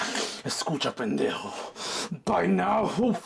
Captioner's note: breathing in frustration; Spanish